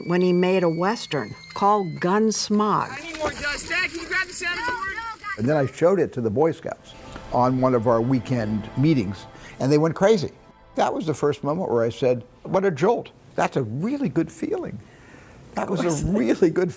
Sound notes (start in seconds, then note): 3.6 board thudding; 16.6 laughing